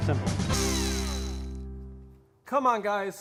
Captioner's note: reel spinning